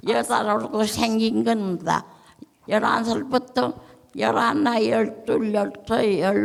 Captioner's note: speaking in foreign language